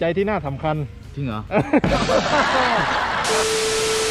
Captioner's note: laugh